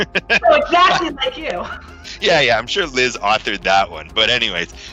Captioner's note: laughs